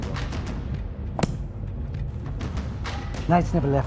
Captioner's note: book slamming